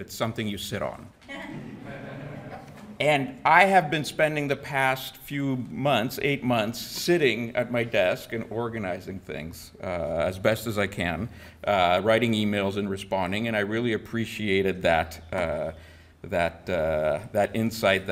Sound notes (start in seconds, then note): 1.3 audience laughing